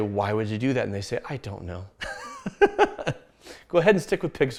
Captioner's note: laughs